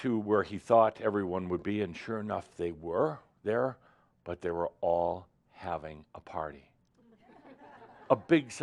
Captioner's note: laughter